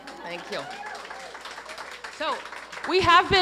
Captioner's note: audience cheering and applauding